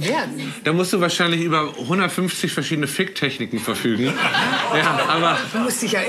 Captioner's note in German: Lachen im Hintergrund